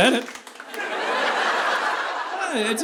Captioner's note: audience laughing